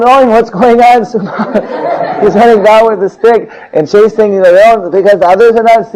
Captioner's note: laughing